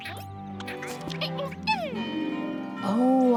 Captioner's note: caterpillar noises